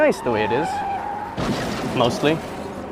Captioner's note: car skidding and crashing